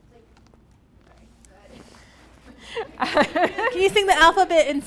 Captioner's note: audience laughs